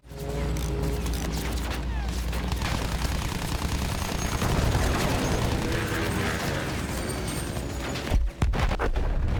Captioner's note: explosions